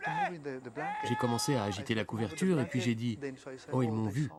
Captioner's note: shouts